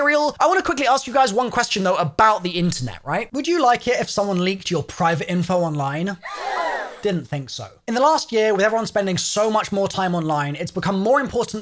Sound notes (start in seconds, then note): 6.2 gasps